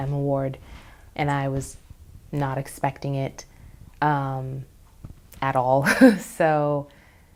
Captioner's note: laughs